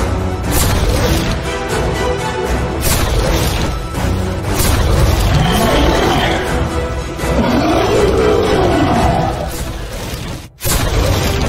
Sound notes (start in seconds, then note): 0.2 cannon Fire; 7.1 roaring